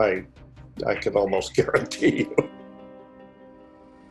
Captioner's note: laughs